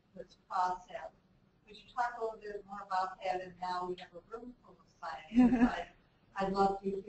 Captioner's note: laugh